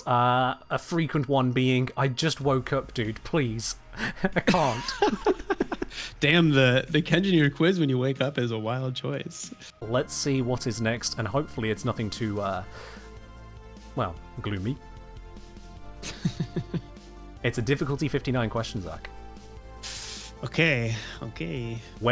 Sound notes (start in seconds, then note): 16.0 polite guest chuckle